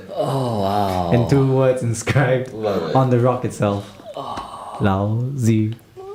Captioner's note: sighs